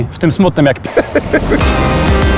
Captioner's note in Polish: śmiech